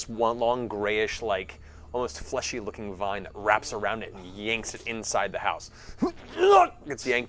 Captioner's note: grunt